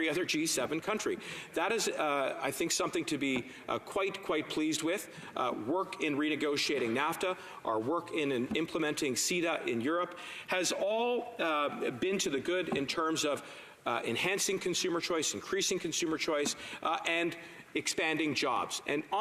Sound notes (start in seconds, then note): none